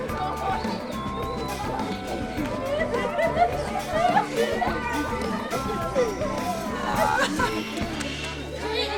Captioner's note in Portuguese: risos; risos